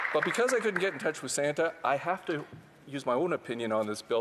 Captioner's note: some applause